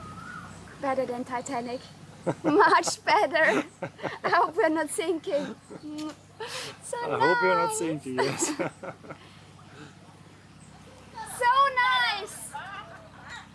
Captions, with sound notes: Better than Titanic. Much better! I hope we are not sinking. I hope we are not sinking, yes. [laughing] So nice!